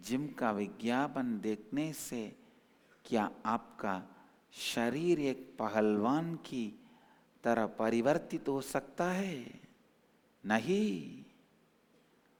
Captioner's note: hindi